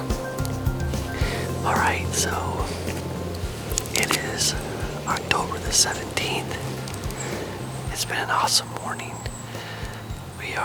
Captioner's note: whispering